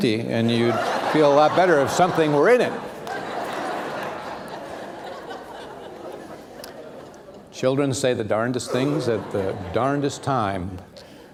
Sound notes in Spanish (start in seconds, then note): 2.7 risas